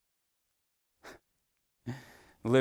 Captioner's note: exhales